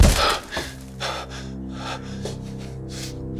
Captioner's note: thump; gasping